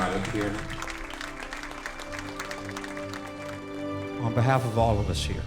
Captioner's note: applause